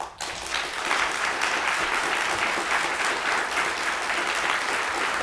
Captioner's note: audience applauds